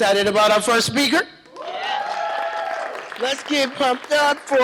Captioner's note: cheering, applause